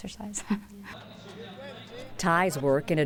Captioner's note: laughs